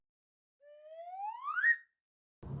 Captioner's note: slide whistle